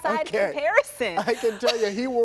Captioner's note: laughter